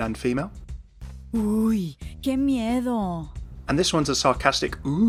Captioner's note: Sombra speaking in foreign language